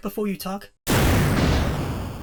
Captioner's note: boom!